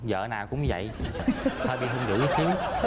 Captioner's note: laughs